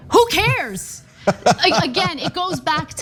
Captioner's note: laugh